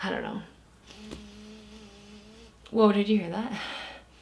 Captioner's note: buzz